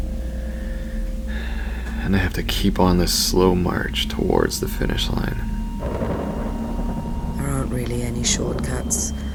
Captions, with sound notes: [sigh] And I have to keep on this slow march towards the finish line. [thunder] There aren't really any shortcuts